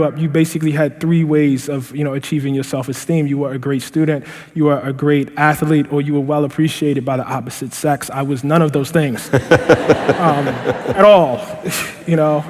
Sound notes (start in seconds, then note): 9.2 laughter; 9.2 laughing